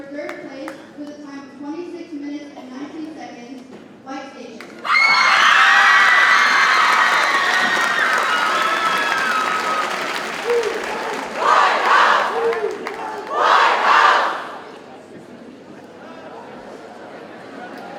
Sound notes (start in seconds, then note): 4.8 audience cheers and applauds